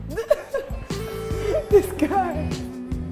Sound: laughing

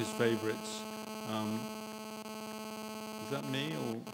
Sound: buzzing sound

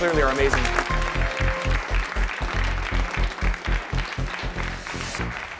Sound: applause

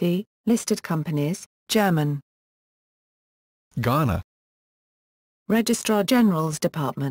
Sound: German

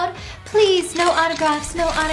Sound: cameras clicking

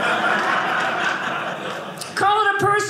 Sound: audience laughing

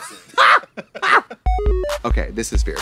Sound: blonde women cachinnate

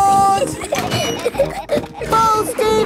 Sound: giggling

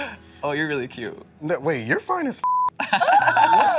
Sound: beep; laughs; squeals

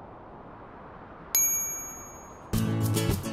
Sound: bell dings

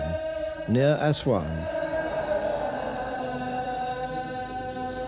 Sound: chanting

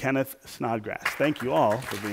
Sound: applause

